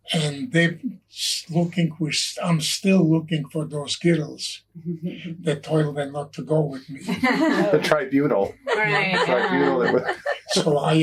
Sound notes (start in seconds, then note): 7.0 all laugh